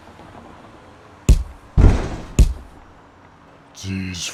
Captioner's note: hits